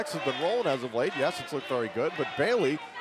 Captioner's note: bell ringing